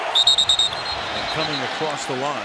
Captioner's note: whistle